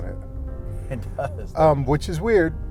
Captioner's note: laughter